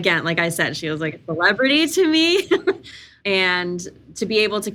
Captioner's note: laughs